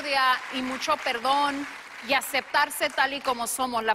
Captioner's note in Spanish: aplausos